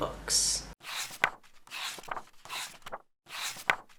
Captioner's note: page turning